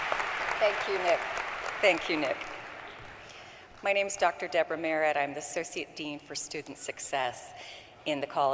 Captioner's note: applause